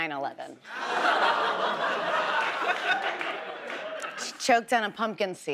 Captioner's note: audience laughs